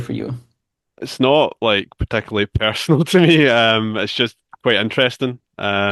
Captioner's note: chuckles